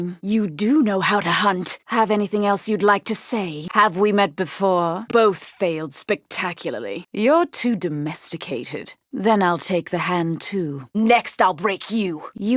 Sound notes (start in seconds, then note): none